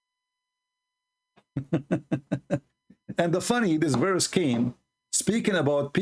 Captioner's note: Ketawa